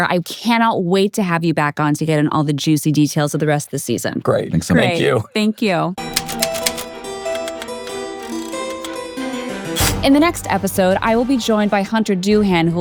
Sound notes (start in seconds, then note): 6.4 spooky music; 7.2 typewriter clicking